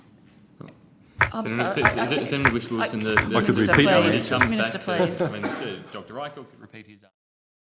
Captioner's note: audible laughter